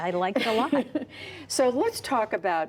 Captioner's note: laughter